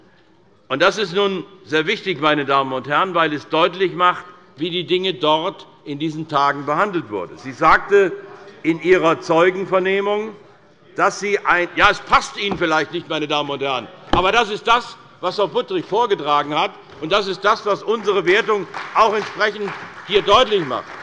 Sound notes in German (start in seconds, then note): 11.2 Zurufe von der SPD; 20.8 Beifall bei der CDU